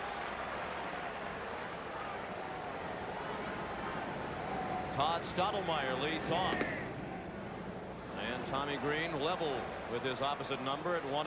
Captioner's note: applause